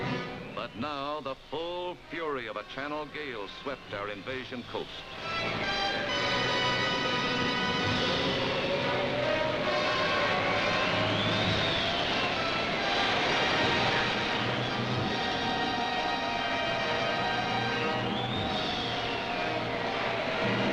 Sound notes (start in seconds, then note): 8.0 sounds of intense wind and crashing waves